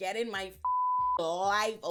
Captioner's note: beep